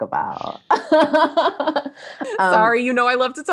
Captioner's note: laughing